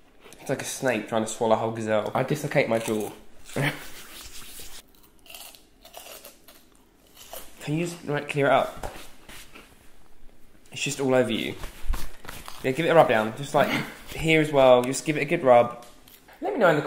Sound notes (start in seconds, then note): 5.8 crunching